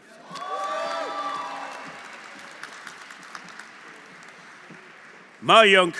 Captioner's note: audience cheering; audience applauding